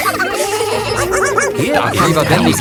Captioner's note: barking; both laughing